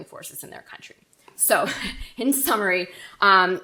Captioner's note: laughs